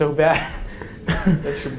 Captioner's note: chuckles